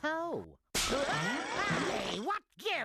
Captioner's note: screams